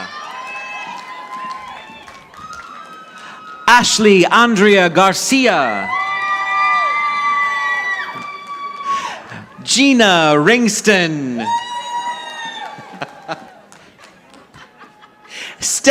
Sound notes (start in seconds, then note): 0.0 audience applauding; 5.9 audience applauding; 11.0 chuckles; 11.6 audience applauding